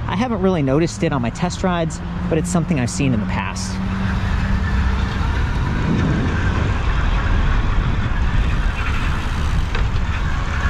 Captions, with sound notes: I haven't really noticed it on my test rides, but it's something I've seen in the past. (wind gushing) (bike motor rumbling)